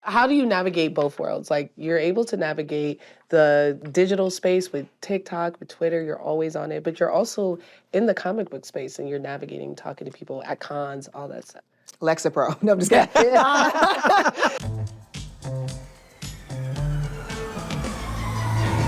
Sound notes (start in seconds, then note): 12.9 all laughing; 14.6 theme music playing